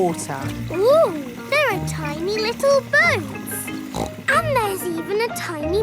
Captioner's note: snorts